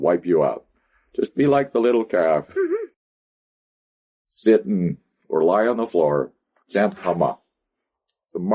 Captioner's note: laughs